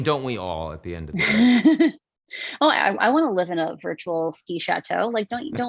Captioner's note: laughs